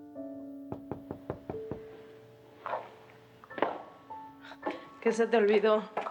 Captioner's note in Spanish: Toques en la puerta